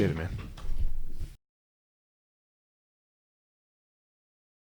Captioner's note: footsteps